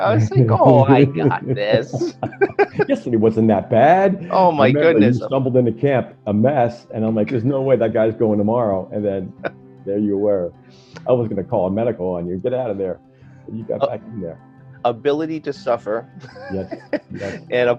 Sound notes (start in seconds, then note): 2.1 laughter